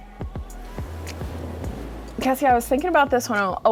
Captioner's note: gentle upbeat music; air whooshing